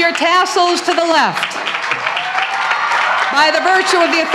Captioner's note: applause, cheering and clapping